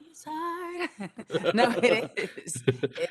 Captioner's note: giggles